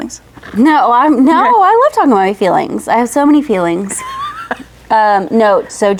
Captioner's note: laughs